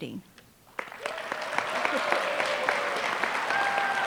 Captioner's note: applause